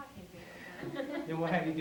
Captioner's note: laughter